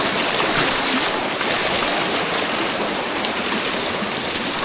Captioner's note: water splashing